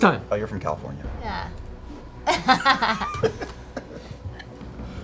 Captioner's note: laughing